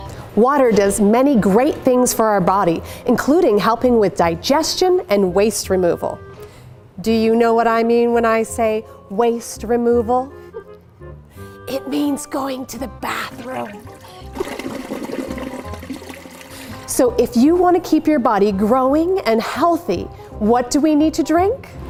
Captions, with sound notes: Water does many great things for our bodies. Including helping with digestion and waste removal. Do you know what I mean when I say waste removal? [Whispers] It means going to the bathroom. (toilet flush sound). So, if you want to keep your body growing and healthy, what do you you need to drink?